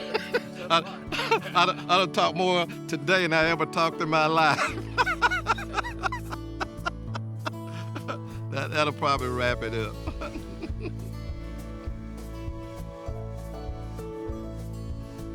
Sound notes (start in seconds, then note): 0.0 laughs; 4.4 laughs; 12.5 upbeat music